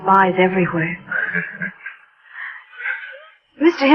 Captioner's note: laughs